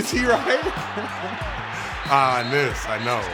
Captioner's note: laughing